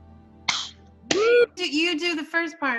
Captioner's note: group whoops